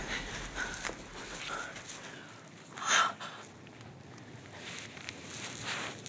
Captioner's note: goulish sounds; heavy breathing